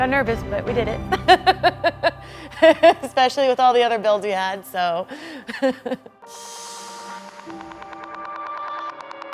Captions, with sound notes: Got nervous but we did it. (laughing) Especially with all the other builds we had. (upbeat music)